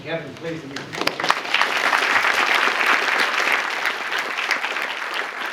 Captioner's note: applause